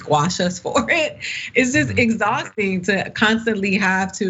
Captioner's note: laugh